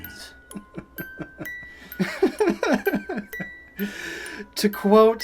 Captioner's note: laughs